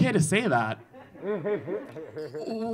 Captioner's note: audience laughing